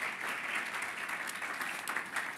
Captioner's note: applause